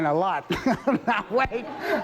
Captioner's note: laughing